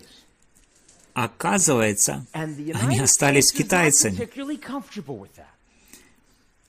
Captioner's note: laughter